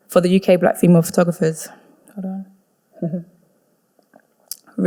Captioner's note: none